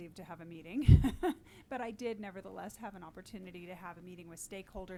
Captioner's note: laughs